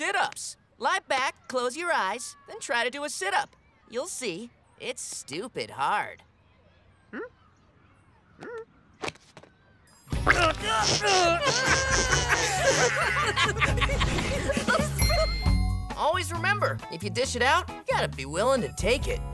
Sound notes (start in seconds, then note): 10.2 groaning; 12.6 laughing